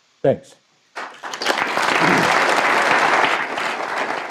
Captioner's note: applause